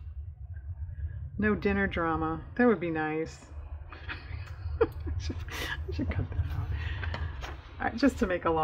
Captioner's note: laughs